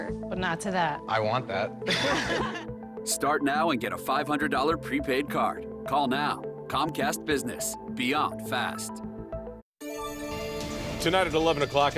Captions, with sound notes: I want that. (laughing) Start now and get a $500 prepaid card. Call now. Comcast Business. Beyond fast.